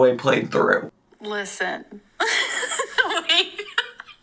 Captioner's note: laughs